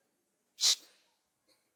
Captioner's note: shh